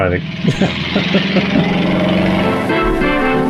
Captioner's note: engine roars; lively band music